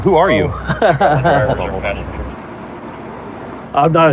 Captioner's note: laugh